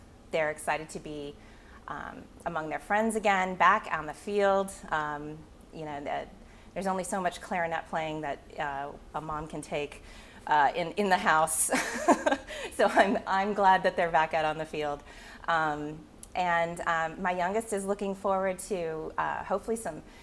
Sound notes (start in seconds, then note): 11.7 chuckling